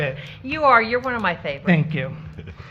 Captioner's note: laughter